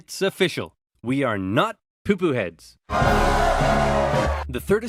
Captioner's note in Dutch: enorm applaus